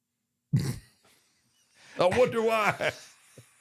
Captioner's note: The Undertaker laughs